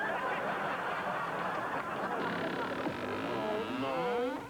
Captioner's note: creaking